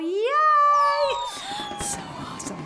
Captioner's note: people cheering; firecrackers crackling